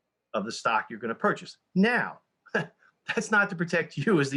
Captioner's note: chuckles